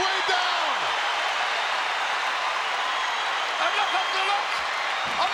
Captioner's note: crowd cheering